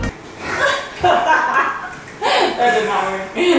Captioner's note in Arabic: ضحك